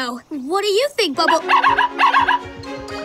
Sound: barking

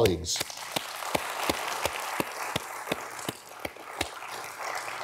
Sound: audience applauding

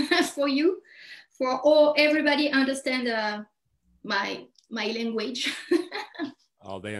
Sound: chuckles

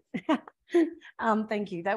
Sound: laughing

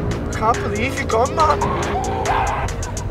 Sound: screams replay

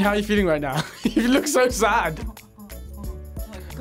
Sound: laughs

